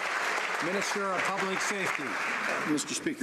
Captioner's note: some Applause